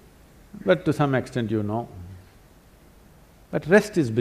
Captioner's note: none